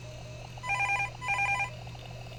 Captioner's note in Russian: звонок телефона